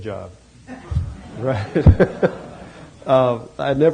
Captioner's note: laughter